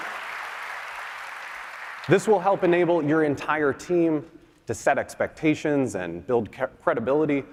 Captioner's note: applause